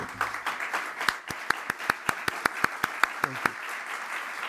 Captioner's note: audience applauding